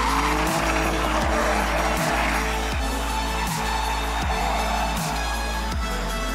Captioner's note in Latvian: Aplausi